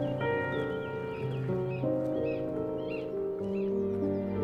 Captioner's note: birds chirping